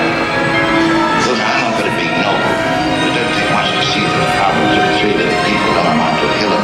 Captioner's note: voice of Humphrey Bogart